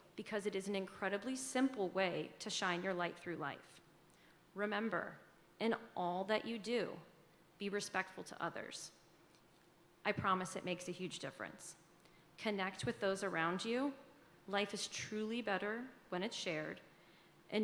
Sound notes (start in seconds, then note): none